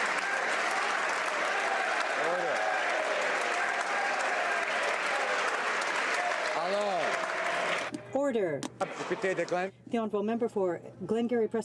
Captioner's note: applause